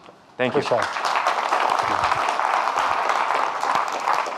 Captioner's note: audience clapping